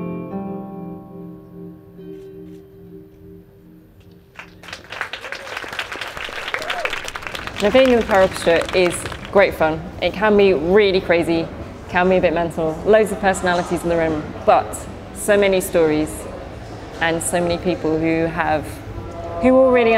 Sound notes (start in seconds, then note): 4.3 applause